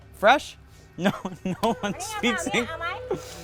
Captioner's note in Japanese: 英語